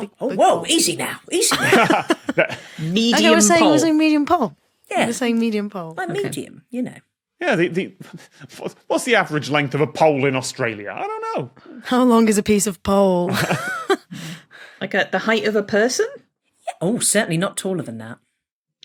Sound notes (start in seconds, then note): 1.4 laugh; 8.2 cracks up; 13.3 both chuckle